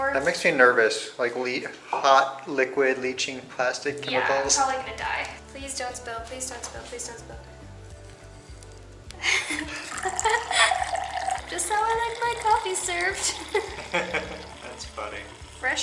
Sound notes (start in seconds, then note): 13.3 laughing